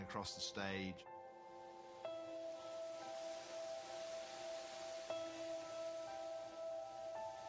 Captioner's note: sparks hissing loudly